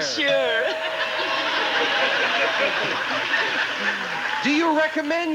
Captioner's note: audience laughing